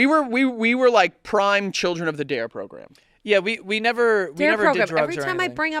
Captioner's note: none